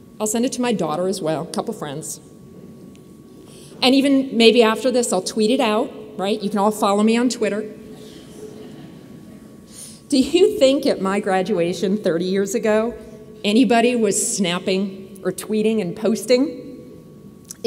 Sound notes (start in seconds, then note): 8.1 audience laughs